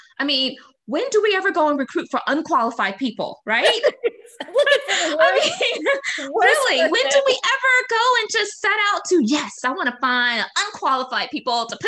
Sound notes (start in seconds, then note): 3.5 laughing